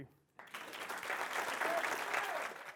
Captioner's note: audience applause